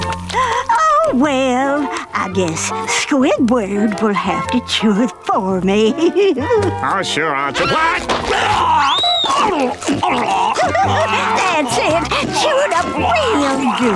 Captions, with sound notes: Oh well, I guess Squidward will have to chew it for me. Oh sure I'll-- What? [gagging] [gagging] [laughing] That's it, chew it up really good.